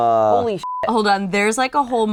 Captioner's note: beep